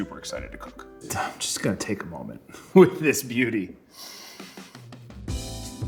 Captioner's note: sniffs; mellow funk music